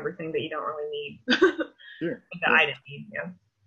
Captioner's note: laughs